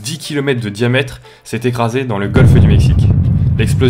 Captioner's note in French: explosion